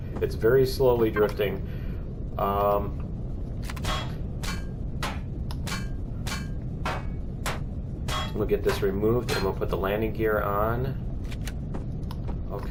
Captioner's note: pinging